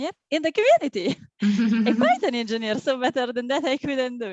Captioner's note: laughs